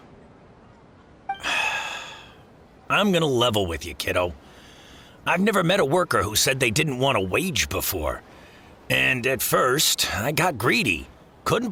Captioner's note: sigh